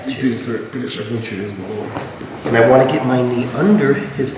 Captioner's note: speaking in a foreign language